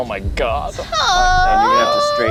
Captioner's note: squeals